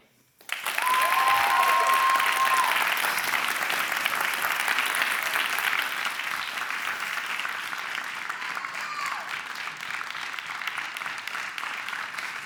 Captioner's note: clapping